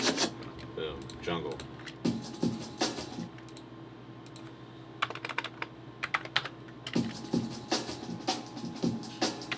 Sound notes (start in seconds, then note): 2.0 breakbeat; 5.0 keyboard clacking; 6.9 breakbeat